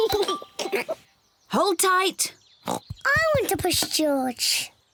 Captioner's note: giggles; oinks